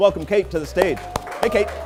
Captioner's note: cheers and applause